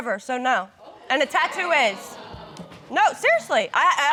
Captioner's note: audience exclaiming